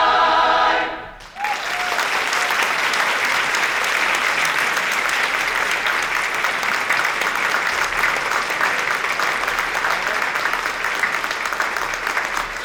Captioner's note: applause